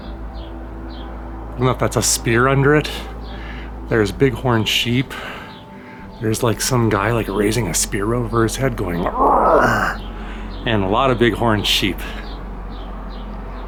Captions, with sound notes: I don't know if that's a spear under it. There's bighorn sheep. There's, like, some guy, like, raising a spear over his head, going [growls]. And a lot of bighorn sheep.